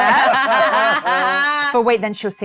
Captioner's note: laugh